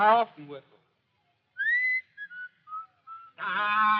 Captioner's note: whistles